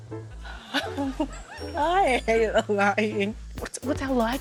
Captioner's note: chuckles